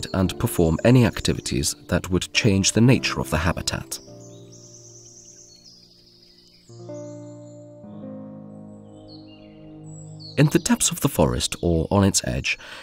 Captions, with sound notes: and perform any activities that would change the nature of the habitat. [sounds of nature] [music, sounds of nature] In the depths of the forest or on its edge,